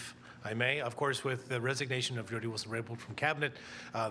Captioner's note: speaking french